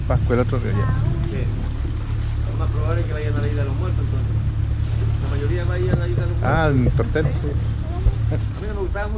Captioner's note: question in a low voice